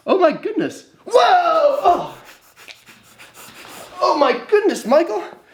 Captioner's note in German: lacht